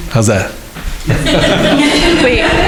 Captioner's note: crowd laughing